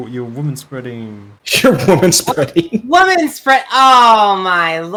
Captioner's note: scoffs